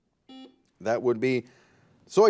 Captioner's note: buzzer